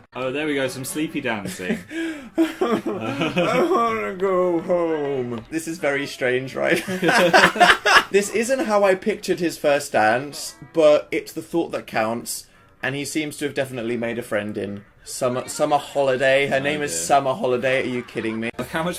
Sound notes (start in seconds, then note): 1.7 płacze